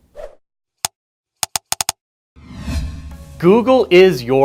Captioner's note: typing and swooshing